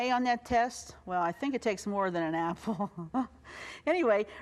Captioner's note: laughs